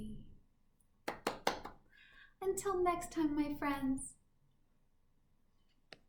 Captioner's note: clapping